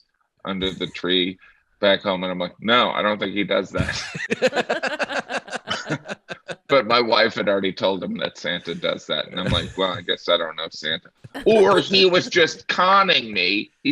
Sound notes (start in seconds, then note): 5.1 laughing